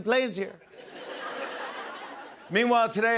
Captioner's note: laughter